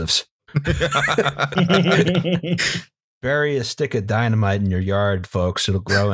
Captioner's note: laughter